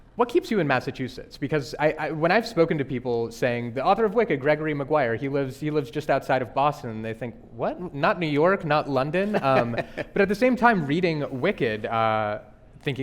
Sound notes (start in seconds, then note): 9.2 laughing